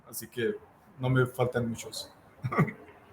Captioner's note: laughs